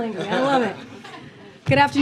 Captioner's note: laughter